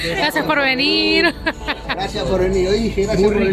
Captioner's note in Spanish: risas